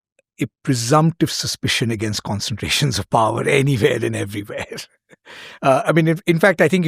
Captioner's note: chuckles